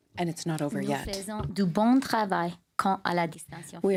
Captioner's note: speaking french